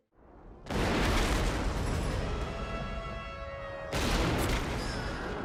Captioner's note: rifle shots